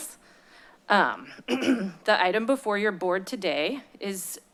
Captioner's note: clears throat